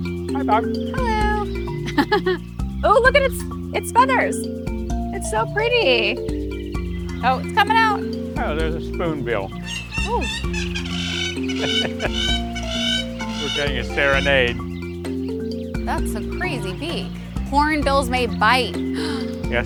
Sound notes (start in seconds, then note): 1.6 laughing; 10.4 bird screeching; 11.5 chuckling